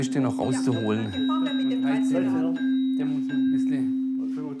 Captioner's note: snippets of conversation, individual tones are played